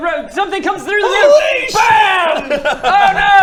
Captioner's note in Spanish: baaam